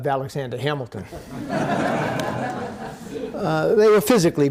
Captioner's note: audience laughing